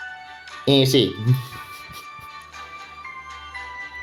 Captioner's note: chuckling